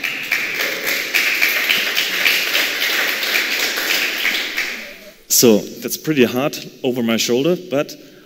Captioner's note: applause